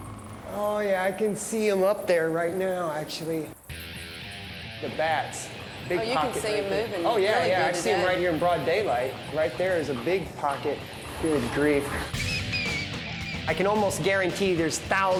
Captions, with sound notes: Oh, yeah, I can see them up there right now, actually. The bats. -Oh, you can see the moving. -Oh, yeah. I see them right here in broad daylight. Right there is a big pocket. Good grief. [squeaking] I can almost guarantee there's thousands